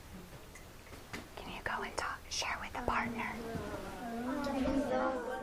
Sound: whispering

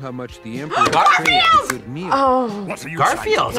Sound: gasps

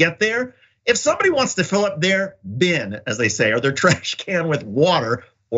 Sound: laugh

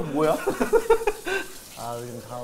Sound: laughing

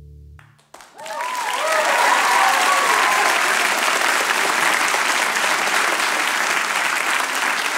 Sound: cheers and applause

